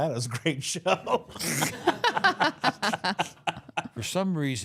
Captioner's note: group laughs